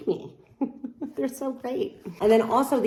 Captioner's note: chuckles